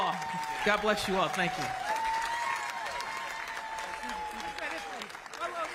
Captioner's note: applause; cheers and applause